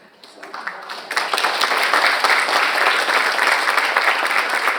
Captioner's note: audience applauds